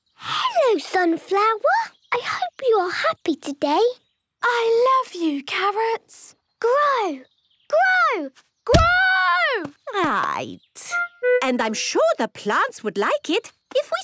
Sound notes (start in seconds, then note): 8.7 stomping